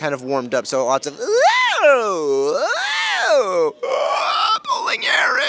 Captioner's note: Ben Diskin noises